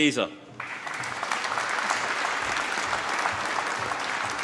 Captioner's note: applause